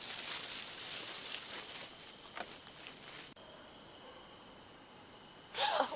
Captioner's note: crickets; leaves rustling; gasp